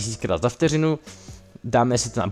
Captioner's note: breaths in